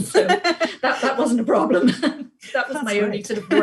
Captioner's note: both laugh